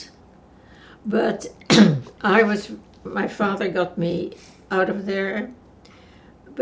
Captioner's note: clears throat